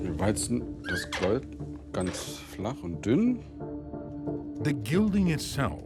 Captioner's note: speaking German